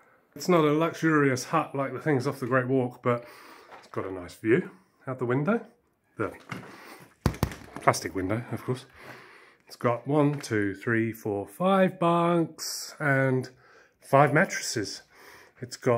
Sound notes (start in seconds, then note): 7.2 taps